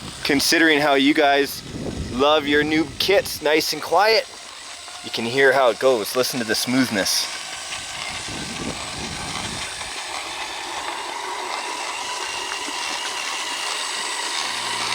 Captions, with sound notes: considering how you guys love your new kits nice and quiet, you can hear how it goes. Listen to the smoothness. (remote control car sound)